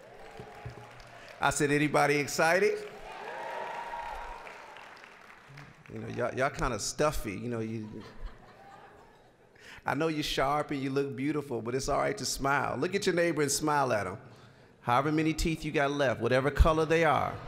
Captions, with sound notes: (applause) I said anybody excited? (applause, cheering) Y'all kinda stuffy. (scattered laughing) I know you're sharp and you look beautiful, but it's all right to smile. Look at your neighbor and smile at 'em. However many teeth you got left, whatever color they are.